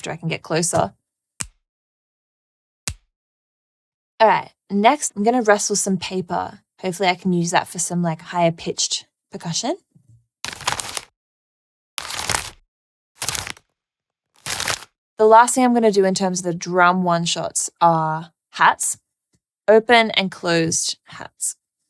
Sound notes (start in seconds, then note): 2.8 snapping; 10.3 paper rustling